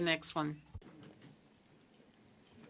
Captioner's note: speaking French